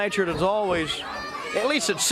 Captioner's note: crowd chatter